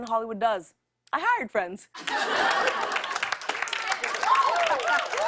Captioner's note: laughter and applause